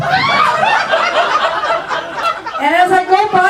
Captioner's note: audience laughs